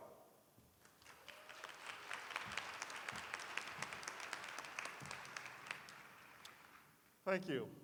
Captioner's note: applause